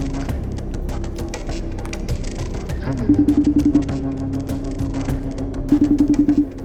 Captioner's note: phone ringing